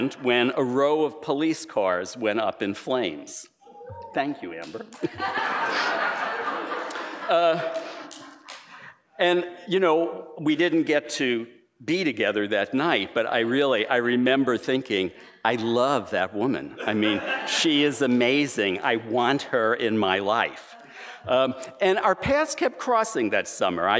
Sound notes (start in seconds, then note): 4.8 laughter